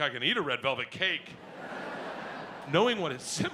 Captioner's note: audience laughs